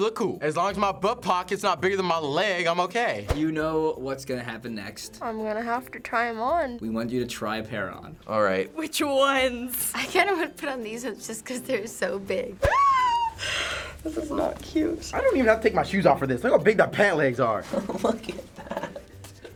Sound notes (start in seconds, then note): 12.5 nervous squeal; 17.7 laughing